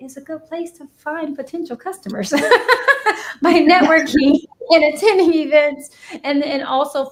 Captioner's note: laughs